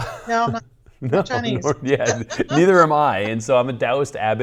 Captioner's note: laughs